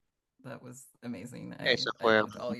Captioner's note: hablando inglés